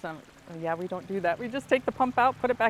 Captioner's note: water gurgling